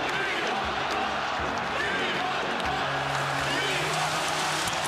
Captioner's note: crowd chanting "We want the Cup!"